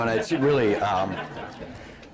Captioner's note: laughter